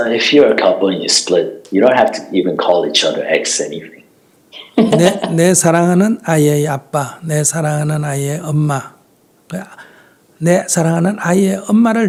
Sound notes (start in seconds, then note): 4.6 questioner Laughter